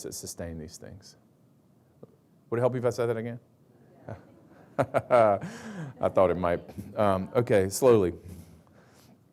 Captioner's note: chuckles